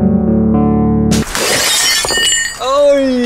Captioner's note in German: Glassplittern